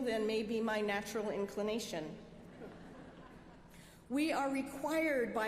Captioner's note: laughter